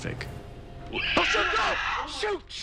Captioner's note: screeches